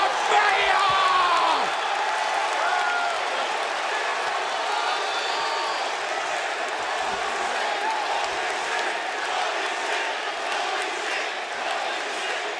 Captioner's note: crowd cheering